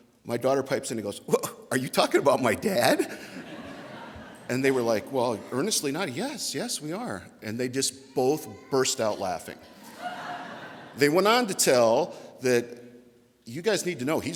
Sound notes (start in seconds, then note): 9.6 audience laughter